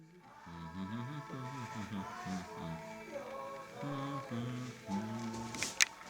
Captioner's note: man hums along to song recording